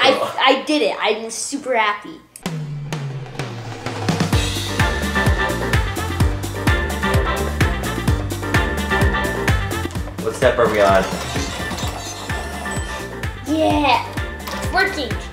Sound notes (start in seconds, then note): 2.1 lively music; 8.3 lively music; 11.8 beeps; 12.2 motor running